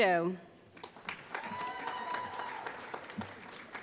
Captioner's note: applause